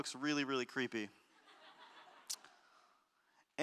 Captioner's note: audience laughter